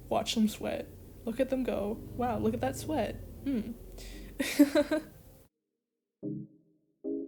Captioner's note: laughs in a manner where you can hear the insanity kicking in